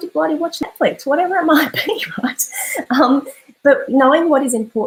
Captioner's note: laughs